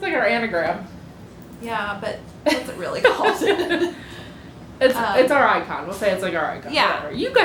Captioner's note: laughter